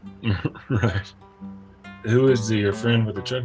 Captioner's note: man chuckling